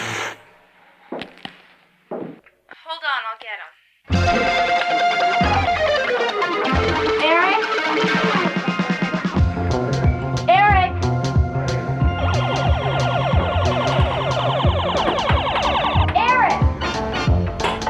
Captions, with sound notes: (laser blasts) - Hold on, I'll get him. Eric, Eric! (laser gun blaring) Eric!